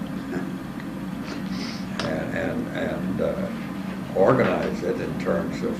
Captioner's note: laugh